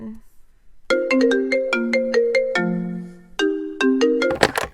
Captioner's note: ringtone